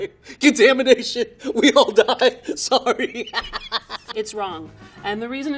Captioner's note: laughing